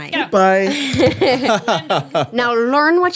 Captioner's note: laughing